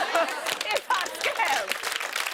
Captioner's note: applause